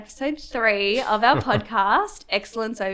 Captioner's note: chuckles